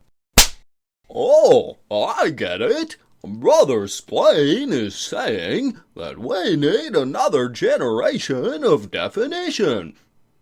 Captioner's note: slap